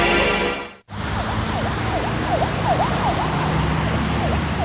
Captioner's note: sirens wailing